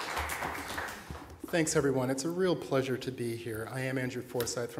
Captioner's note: applause